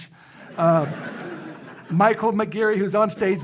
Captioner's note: audience laughing